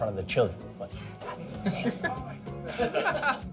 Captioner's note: whispering